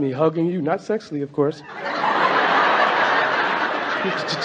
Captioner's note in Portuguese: A platéia ri